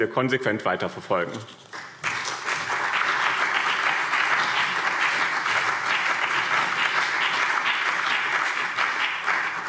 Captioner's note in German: Beifall BÜNDNIS 90/DIE GRÜNEN und CDU